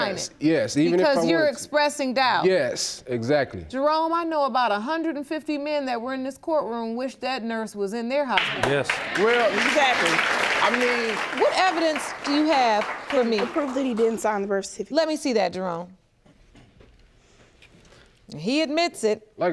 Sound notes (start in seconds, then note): 8.3 crowd applauding